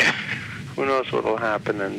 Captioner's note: laughs